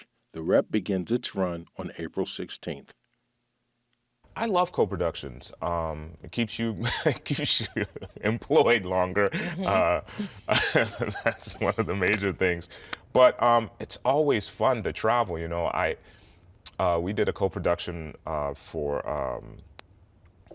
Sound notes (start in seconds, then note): 9.3 laughs